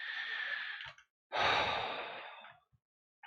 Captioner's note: deep sigh